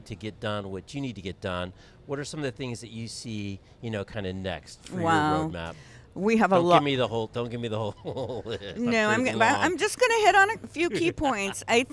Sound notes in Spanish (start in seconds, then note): 7.8 risas